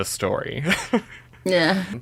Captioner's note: laughs